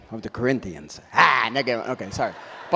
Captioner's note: audience laughs